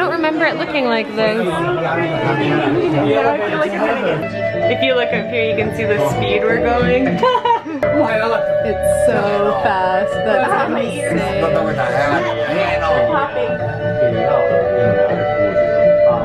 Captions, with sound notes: I don't remember it looking like this. If you look up here you can see thee speed we're going. (laughing) It's so fast. That's insane. (people speaking in foreign language)